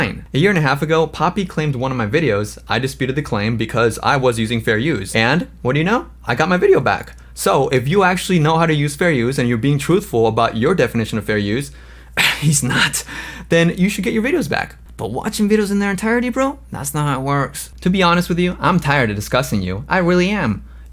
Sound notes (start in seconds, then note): 12.1 coughs